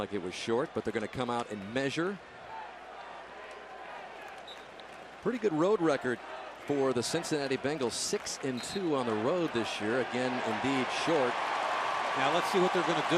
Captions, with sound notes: Seemed like it was short but they're going to come out and measure. [whistle blows] Pretty good road record for the Cincinnati Bengals, 6 and 2 on the road this year. Again, indeed short. [cheering]